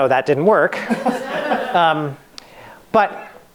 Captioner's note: laughing